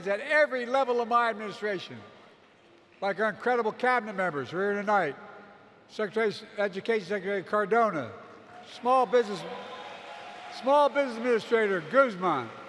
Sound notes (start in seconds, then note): 8.9 applause